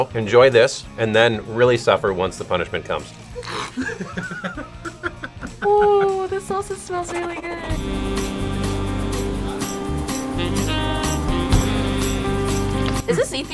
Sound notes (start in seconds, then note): 3.4 laughs; 8.0 upbeat music